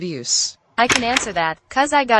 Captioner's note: door opens